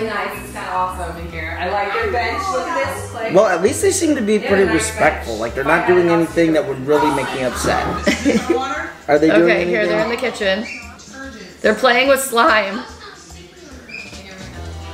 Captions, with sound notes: - Its really nice, its kinda awesome in here. I like their bench, look at this place. - Well at least they seem to be pretty respectful. They're not doing anything that would really make me upset. (laughing) - Is this my water? - Are they doing anything - Okay here they're in the kitchen. They're playing with slime.